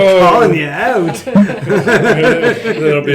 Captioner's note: laughs